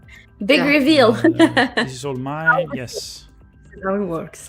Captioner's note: laughs